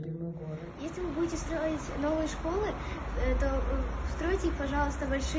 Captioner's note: speaking foreign language